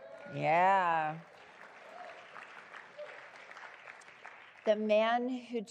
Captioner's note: applause